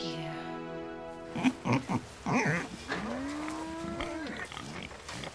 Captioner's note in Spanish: cerdo resoplando